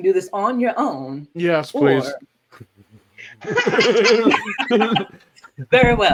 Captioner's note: laughter